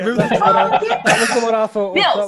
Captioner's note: laughing